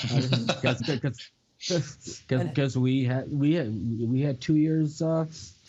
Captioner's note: laughter